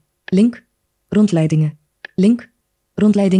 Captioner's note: speaks in foreign language